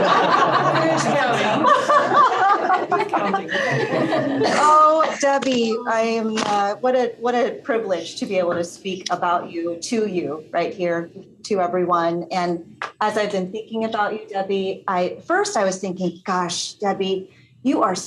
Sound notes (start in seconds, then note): 5.9 laughter